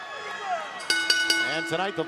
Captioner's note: bell